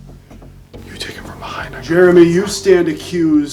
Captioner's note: whispering